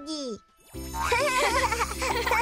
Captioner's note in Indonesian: Hogi dan Pinkfong tertawa